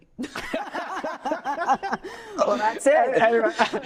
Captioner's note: laughing